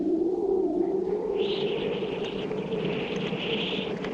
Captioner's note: wind whistling